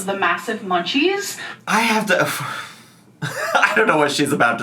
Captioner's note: sighs